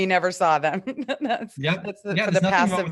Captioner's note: chuckles